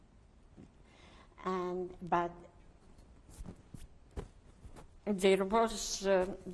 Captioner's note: pauses for 3 seconds